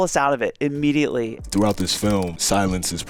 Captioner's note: keyboard clacking